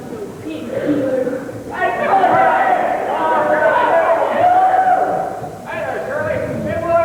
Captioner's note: shouting